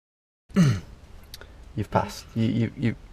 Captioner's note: clears throat